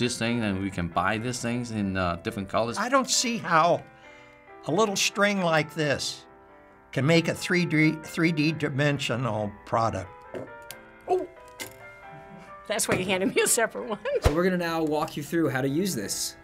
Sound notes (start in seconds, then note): 10.0 reel thuds